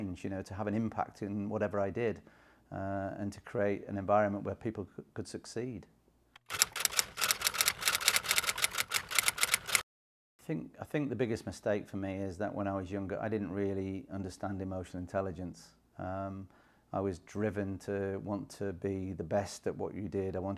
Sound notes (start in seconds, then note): 6.4 typewriter clicking